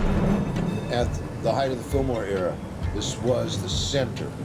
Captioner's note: traffic noises